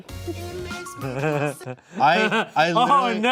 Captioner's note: snickering